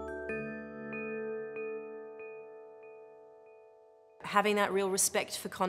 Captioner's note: bells echoing